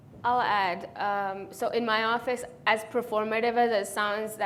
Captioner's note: none